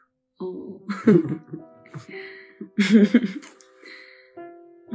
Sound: laughter

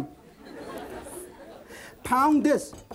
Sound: laughter

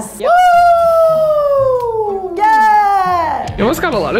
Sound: screaming

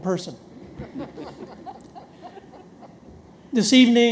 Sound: audience laughs

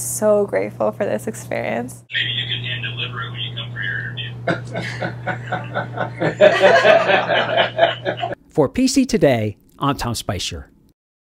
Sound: laughter

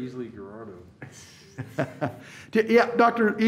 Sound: laughs

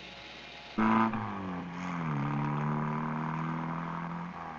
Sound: car engine running

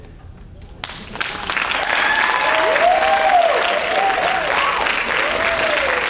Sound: audience applauding and cheering

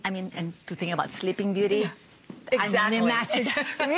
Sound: laughter

